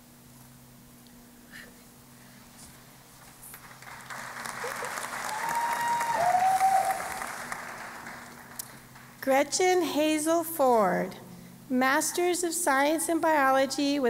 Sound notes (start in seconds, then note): 3.5 applause and Cheering